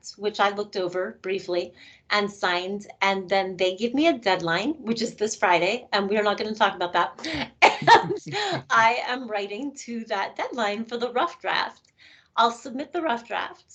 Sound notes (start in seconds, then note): 7.2 laughing